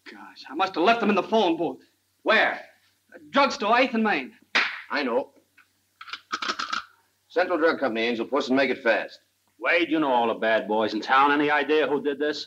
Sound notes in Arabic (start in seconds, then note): 4.5 تصفيق; 5.8 نقرة على الهاتف